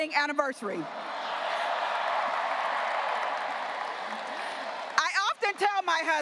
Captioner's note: graduates cheering and applauding